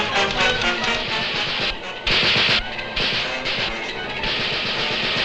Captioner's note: guns popping